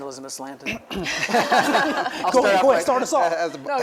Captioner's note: everybody laughs